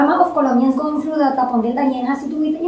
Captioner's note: speaking spanish